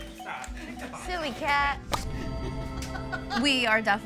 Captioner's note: laughs